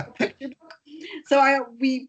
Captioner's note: laughing